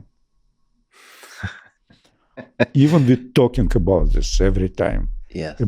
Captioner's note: Lex laughs